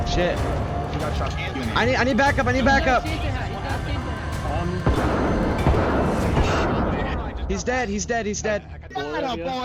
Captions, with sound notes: "Sh*t I need back up, I need back up." (gunshots) "he's dead he's dead x2 he's dead." x3